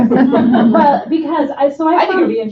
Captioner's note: laughter